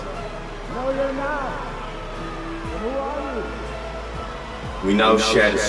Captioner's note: disapproving chattering